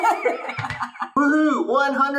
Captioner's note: laughs